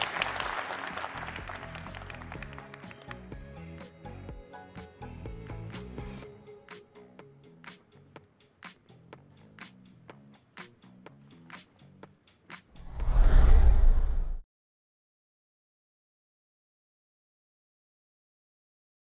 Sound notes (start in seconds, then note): 2.6 applause